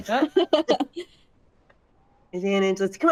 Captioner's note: cast members laughing